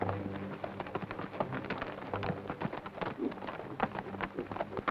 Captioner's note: hooves clop